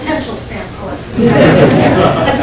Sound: laughter

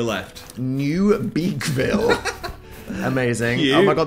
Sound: laughs

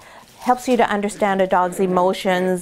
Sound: dog toy crinkling; puppy growling

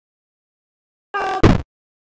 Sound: screams

